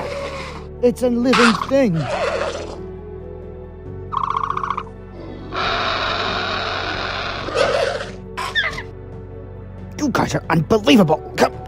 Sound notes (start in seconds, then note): 5.1 dilophosaurus hissing